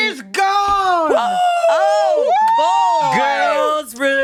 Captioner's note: hosts cheering